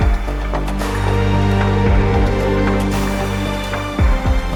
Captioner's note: cheers